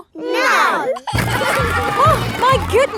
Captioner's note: giggling